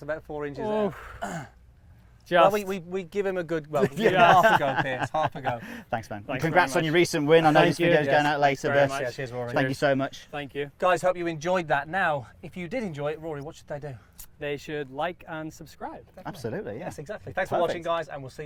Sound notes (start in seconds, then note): 3.8 laughing